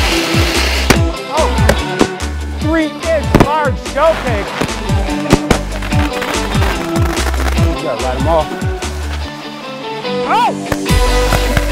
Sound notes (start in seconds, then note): 0.0 fireworks exploding; 0.2 festive music; 4.7 festive music; 5.8 fireworks exploding; 11.2 fireworks exploding; 11.5 festive music